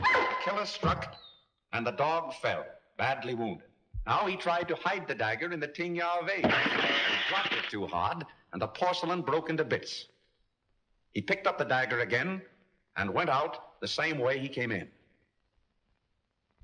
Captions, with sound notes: The killer struck, and the dog fell, badly wounded. Now he tried to hide the dagger in the Tiang Yao vase. (shattering sound) He dropped it too hard, and the porcelain broke into bits. He picked up the dagger again and went out the same way he came in.